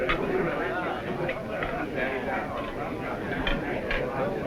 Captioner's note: crowd chattering